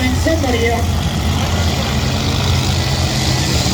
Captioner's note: engines rev